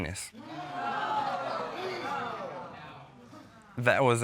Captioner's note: audience groans